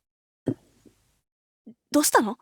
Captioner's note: silence; awkward silence